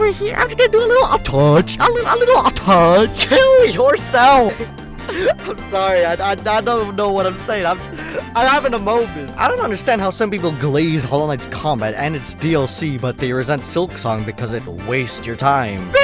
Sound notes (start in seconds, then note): 4.3 inhales; 4.4 laughs; 7.8 inhales